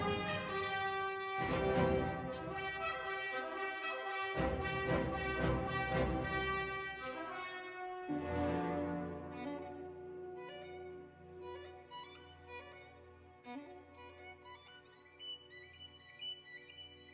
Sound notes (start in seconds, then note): none